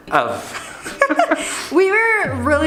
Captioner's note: laughter